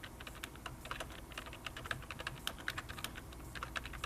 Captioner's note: typing